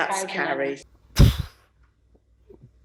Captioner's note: sighs